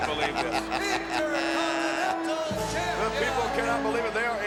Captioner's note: Ted laughs